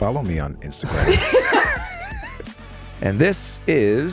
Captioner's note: laughing